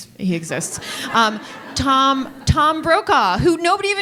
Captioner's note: audience laughing